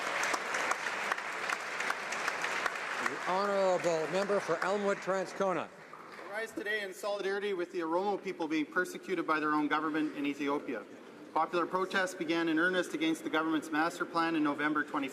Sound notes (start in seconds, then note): 2.4 speaking ukrainian; 5.6 some Applause